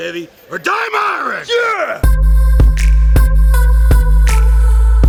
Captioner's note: yells